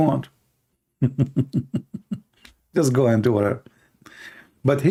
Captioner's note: Ketawa